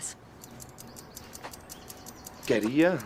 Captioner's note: tick tick tick tick